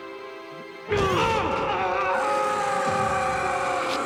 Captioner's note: carella screams; tim grunts